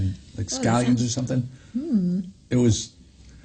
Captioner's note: hums